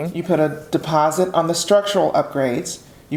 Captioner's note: none